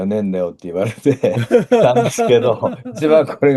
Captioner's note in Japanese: 笑い